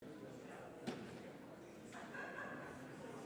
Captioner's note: audience chatter